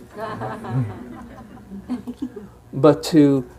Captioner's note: participants laughing